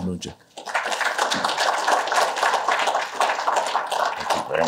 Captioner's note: applause